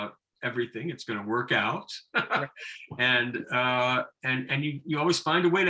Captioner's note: laughing